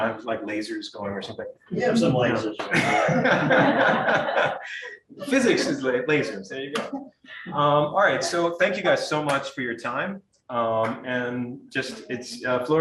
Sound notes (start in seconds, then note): 2.6 audience laughing